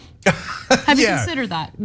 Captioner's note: laugh